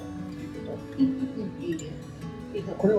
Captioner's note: laughs